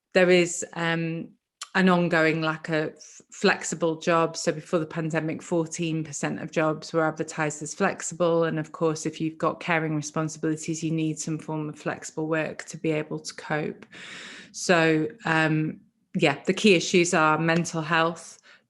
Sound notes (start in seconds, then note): none